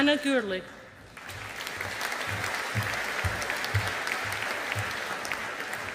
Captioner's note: audience applauding